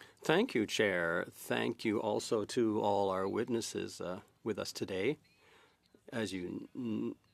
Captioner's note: speaking French